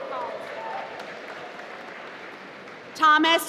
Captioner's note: applause